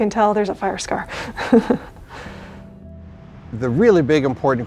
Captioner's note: chuckling